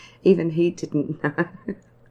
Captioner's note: laughing